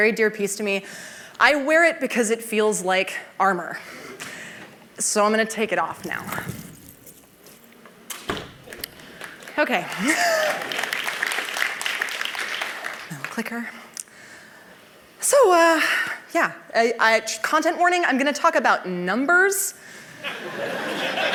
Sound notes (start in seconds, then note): 9.1 applause; 20.2 laughter